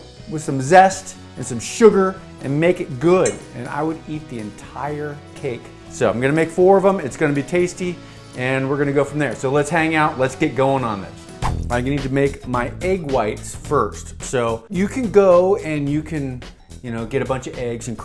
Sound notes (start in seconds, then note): 11.4 whoosh; 11.6 upbeat music